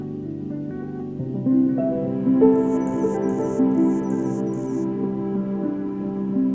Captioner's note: soft piano music; bird chirping